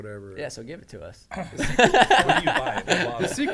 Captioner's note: men laughing